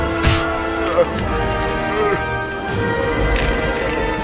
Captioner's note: moans of pain